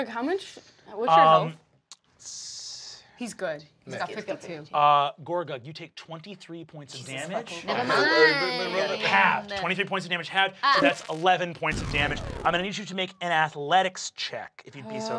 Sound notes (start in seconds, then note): none